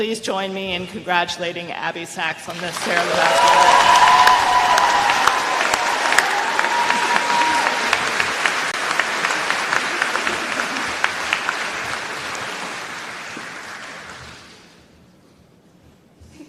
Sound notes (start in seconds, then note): 4.4 applause